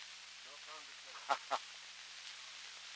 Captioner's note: Murrow, laughing